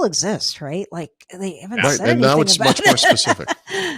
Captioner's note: laughing